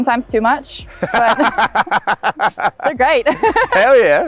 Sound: laughs

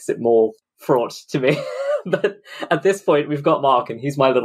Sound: laughs

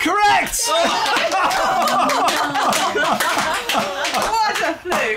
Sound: applause

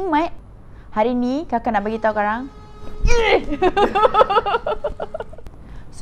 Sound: truck honking!!!

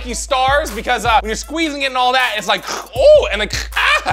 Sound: throat static

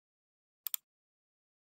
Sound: another mouse clicks

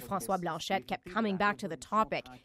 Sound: speaking French

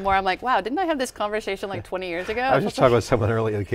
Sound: laughs

